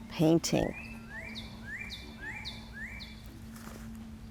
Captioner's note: birds chirping